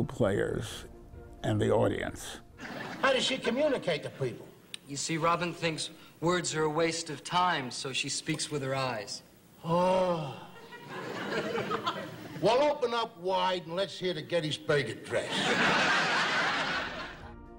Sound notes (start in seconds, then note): 15.2 laughter